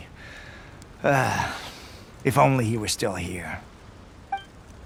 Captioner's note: sigh